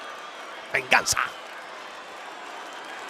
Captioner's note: applause